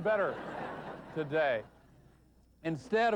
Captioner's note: laughter